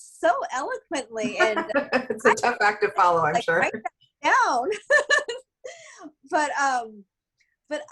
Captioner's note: laughter